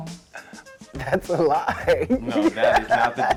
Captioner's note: laughs